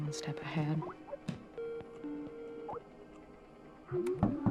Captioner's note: Skype ringing